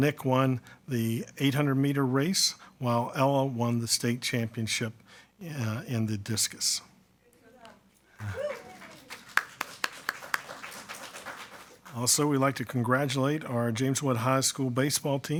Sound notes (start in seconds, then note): 8.1 attendees clapping